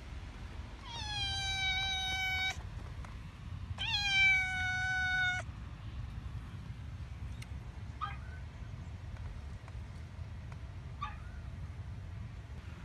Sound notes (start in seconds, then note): 0.8 Caprice meows; 4.0 Ella whimpers